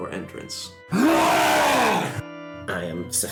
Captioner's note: long wookie roar